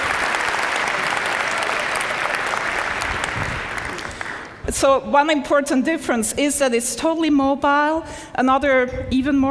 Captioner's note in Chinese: 掌聲